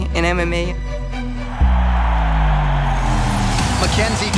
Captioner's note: crowd cheering